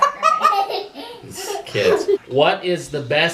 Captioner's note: laughter